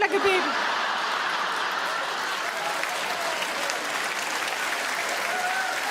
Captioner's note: audience laugh; audience clap